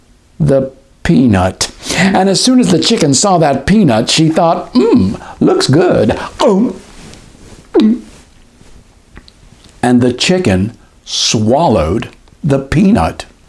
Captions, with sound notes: the peanut. And as soon as the chicken saw that peanut, she thought, "Mmm. Looks good!" [Gulp] [Swallow] And the chicken swallowed the peanut.